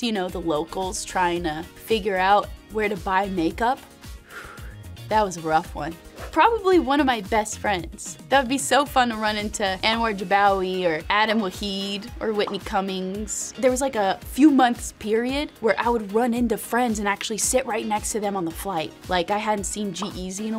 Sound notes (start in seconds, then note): 4.2 sighing